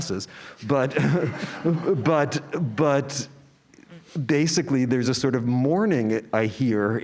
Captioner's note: laugh